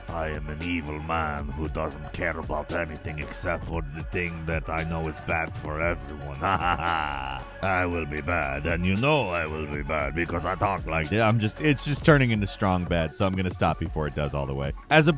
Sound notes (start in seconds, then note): 6.2 laughs